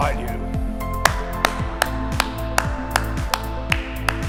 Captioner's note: applause